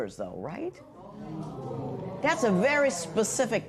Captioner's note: spectators murmur